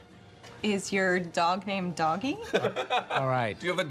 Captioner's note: man laughing